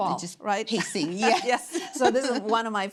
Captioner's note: laughing